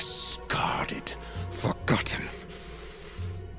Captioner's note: none